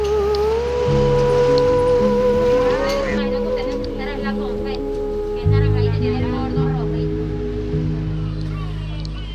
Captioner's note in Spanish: Personas conversando al fondo